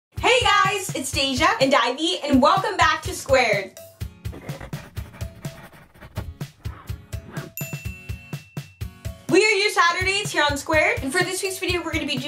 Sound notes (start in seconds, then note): 4.3 pen scratching; 7.3 upbeat music